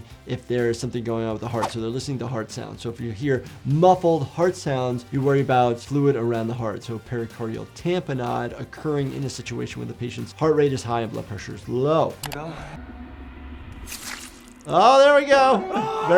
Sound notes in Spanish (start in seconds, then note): 13.9 silbido mientras se retira el cuchillo